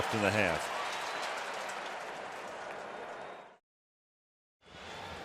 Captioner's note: cheering